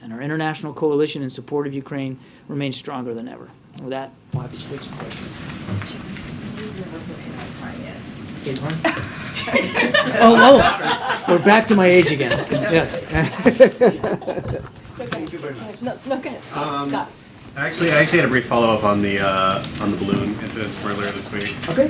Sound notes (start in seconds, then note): 12.0 laughs; 12.1 laughter